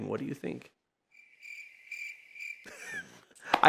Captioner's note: crickets chirp; laughs